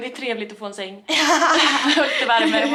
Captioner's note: laughing